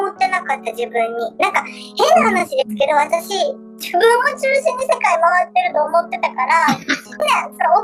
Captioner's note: laughs